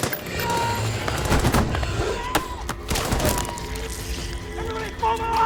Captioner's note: gunshots blasting